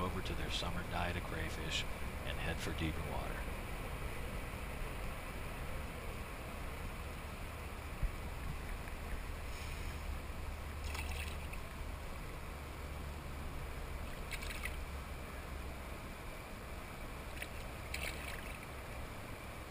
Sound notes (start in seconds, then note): 10.8 splash!; 14.0 splash!; 17.2 splash!